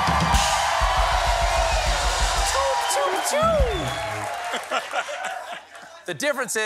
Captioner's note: cheers and applause